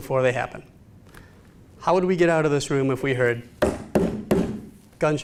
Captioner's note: imitates gunfire